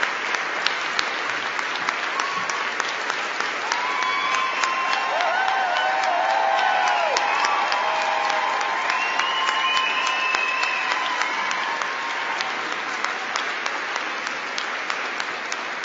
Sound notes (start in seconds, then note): 3.9 cheering; 12.3 applause